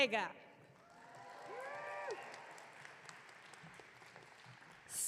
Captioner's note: audience cheering